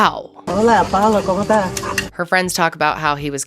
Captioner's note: speaking foreign language